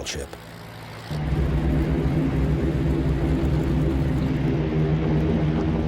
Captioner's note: plane engines rumbling